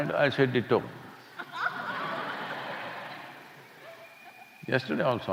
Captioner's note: laughter